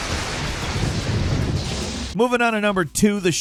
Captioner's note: thunder booming; exciting music